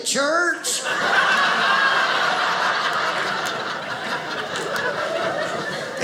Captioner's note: audience laughing